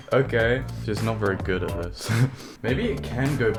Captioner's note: chuckles